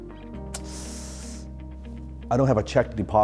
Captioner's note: sharp inhale